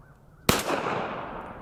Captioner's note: pistol fires